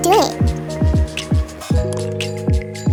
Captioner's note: click sound